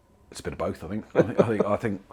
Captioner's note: laughter